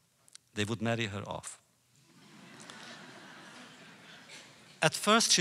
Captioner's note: laughter